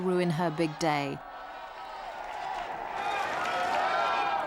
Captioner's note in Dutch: publiek mompelt